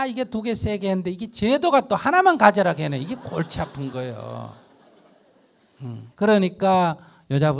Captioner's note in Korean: 청중 웃음